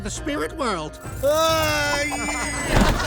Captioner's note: groaning; laughing